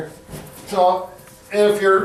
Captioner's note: body thuds